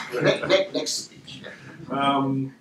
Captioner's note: laughter